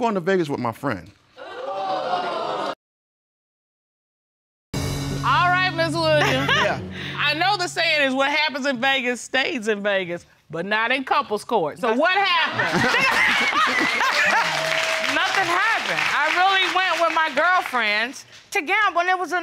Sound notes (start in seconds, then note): 1.4 audience exclaiming; 12.5 laughing